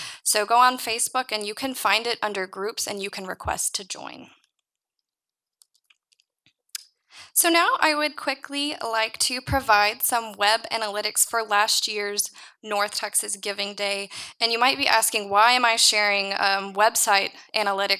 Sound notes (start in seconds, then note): 5.6 mouse clicking